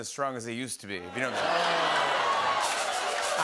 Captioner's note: audience groans